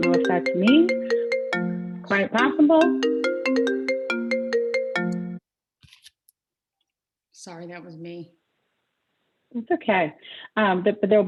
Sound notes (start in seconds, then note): 2.8 phone ringing